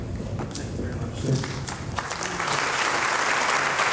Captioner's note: voiceover; applause